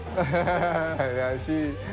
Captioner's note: laughing